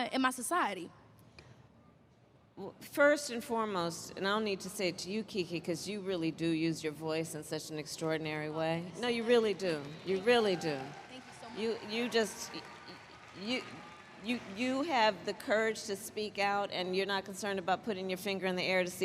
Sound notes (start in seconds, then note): 9.8 applause